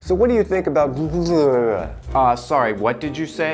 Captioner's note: jabbering